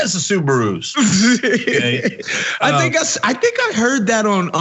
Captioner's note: laugh